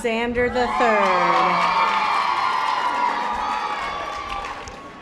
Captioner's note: audience applause